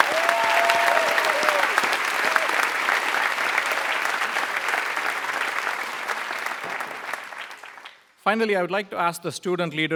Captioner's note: applause